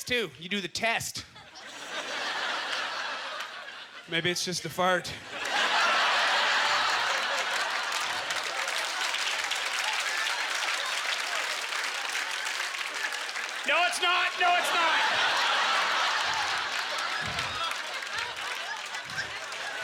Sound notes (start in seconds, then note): 1.4 audience chuckling; 5.6 applause; 15.2 audience ughter